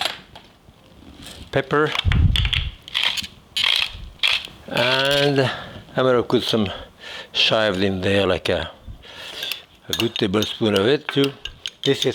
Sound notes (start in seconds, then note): 3.5 pepper mill grinding